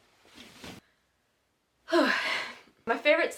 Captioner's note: breath